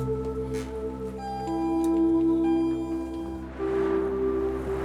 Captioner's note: elevator chime; car drives